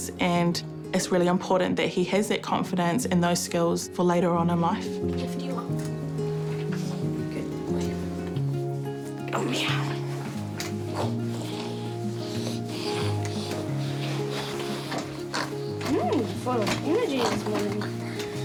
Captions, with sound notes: and it's really important that he has that confidence and those skills for later on in life. Lift you up. Good boy. Come here. (GRUNTS) Hmm, full of energy this morning.